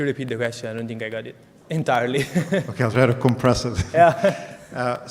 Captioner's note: laughs